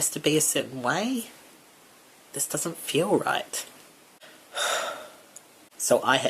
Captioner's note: sigh